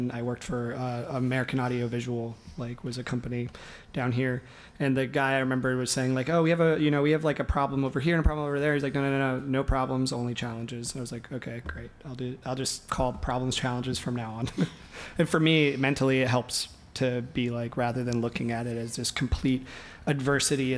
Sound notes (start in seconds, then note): 14.9 laughs